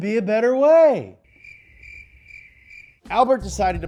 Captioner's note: crickets chirping